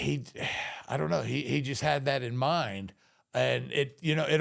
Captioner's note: sighs